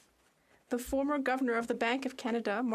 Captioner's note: speaking French